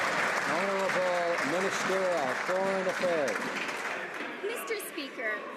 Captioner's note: some Applause